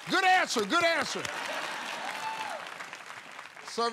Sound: laughter

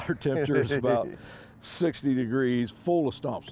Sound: laughs

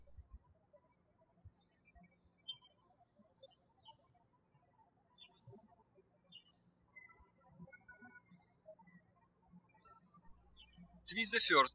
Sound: birds chirping

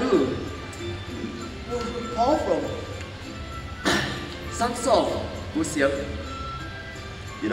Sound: with mouth full

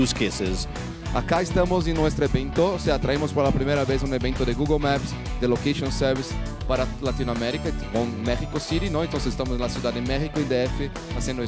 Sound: speaking spanish

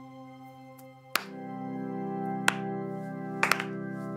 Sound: claps

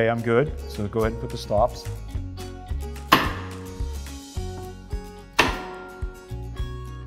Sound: gentle music; nail gun shooting nails

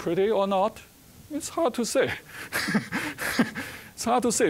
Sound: chuckling

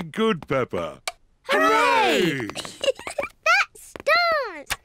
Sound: giggles

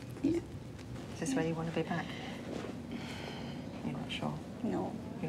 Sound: exhales

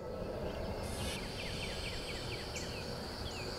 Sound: birds chirping

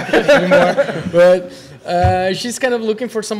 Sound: laughter

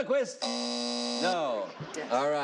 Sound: buzzing

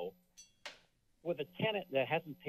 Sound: metal clank

